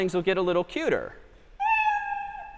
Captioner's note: meow